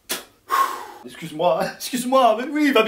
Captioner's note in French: soupirs